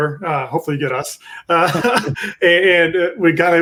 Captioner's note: both laughing